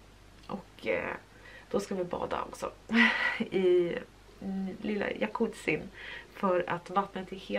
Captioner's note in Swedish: skratt